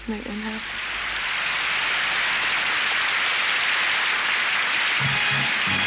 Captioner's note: crowd applause